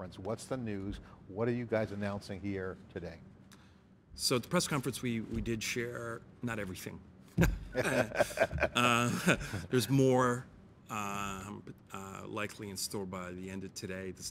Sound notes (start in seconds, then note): 7.4 laughs